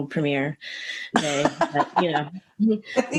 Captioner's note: laughter